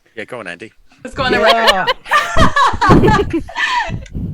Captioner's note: laughs